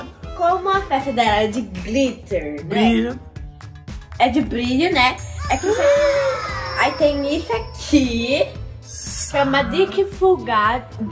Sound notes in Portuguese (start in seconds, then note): 5.1 som de brilho; 5.3 som de admiração